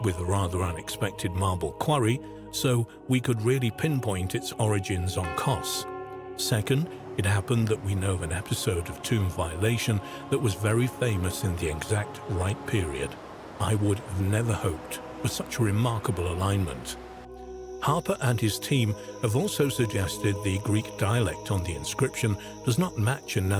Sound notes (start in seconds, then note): 5.5 bell dinging; 13.0 waves crashing; 17.1 insects chirring